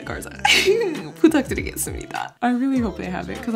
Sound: speaks Korean

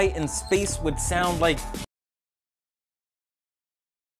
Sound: silent

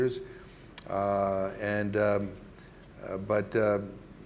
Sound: stammering

